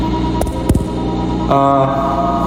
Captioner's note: lens Taps